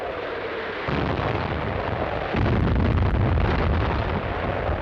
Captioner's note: cannons firing